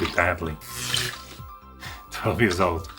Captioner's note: electricity Zap